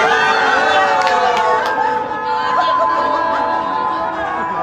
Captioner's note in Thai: ปรบมือ